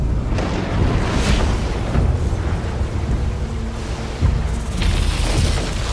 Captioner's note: thunder crashing